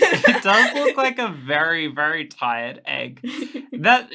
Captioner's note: laughing; laughs